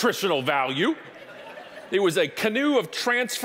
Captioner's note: audience laughing